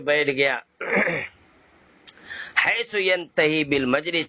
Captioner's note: clears his throat